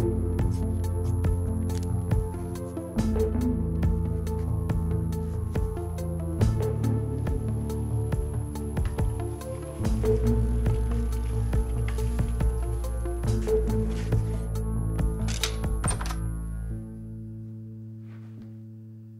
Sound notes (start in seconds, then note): 0.2 scissors clicking; 9.4 bike rattling; 15.2 door opens; 15.2 crossbow clicks; 16.4 soft music